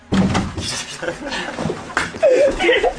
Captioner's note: falls to fall with laughter